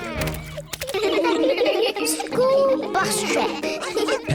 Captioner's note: giggling